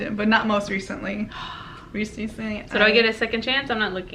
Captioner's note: sigh